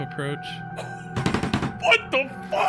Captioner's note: Skull beats on his desk